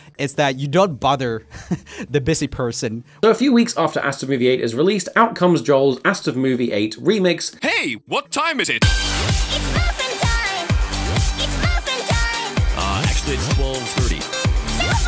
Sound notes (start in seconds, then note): 1.5 laughing; 8.5 upbeat electronic music